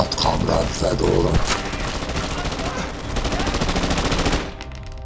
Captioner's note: guns banging